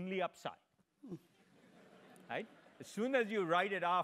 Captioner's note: laugh